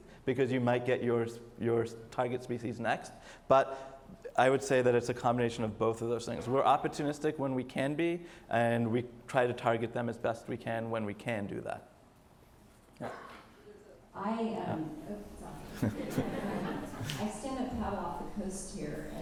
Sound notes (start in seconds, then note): 15.6 audience laughs